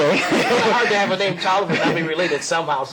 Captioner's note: laughter